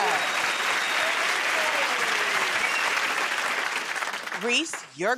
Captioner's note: cheers and applause